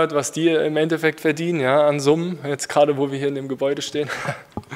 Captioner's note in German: lacht